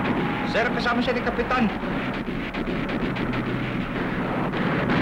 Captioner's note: speaking filipino